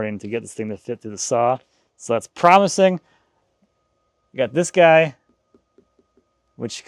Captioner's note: none